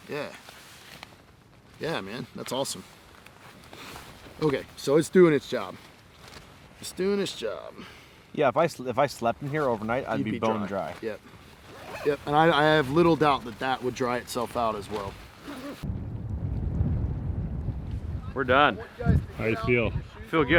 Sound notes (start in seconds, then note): 11.6 zipping